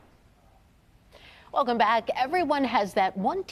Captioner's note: logo whooshes